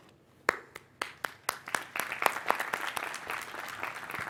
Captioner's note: applause